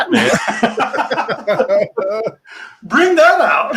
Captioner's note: people laughing